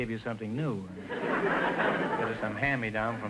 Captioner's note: audience laughter